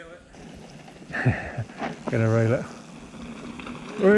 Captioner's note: laughs